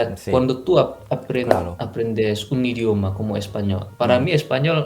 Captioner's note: Spanish